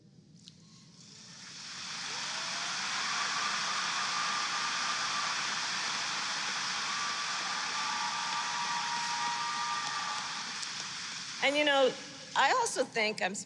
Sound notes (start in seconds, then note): 1.7 applause